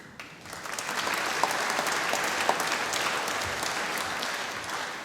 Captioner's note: applause